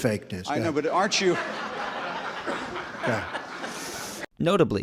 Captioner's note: audience laughs